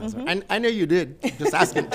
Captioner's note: all laughing